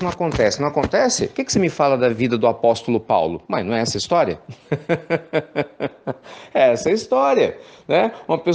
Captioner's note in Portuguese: risos